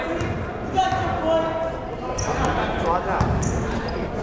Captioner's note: chattering; yelling